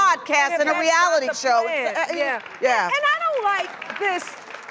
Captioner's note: audience applause